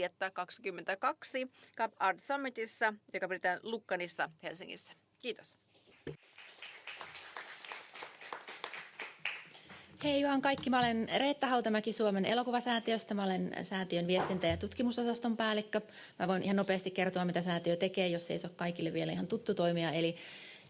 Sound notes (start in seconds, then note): 6.2 applause